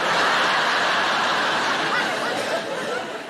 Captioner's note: audience laughing